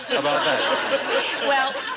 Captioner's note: audience laughing